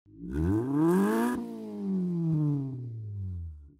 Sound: engine revs

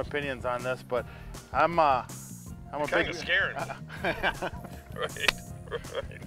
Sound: laughing

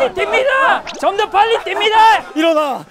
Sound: shouting like a soldier

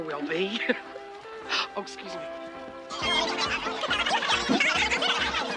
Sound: woman chattering

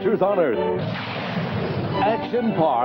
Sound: explosion

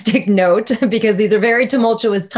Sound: laughing

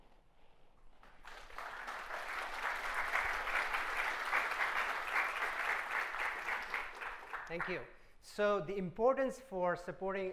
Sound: applause

